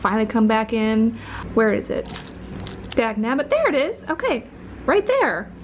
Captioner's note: crinkles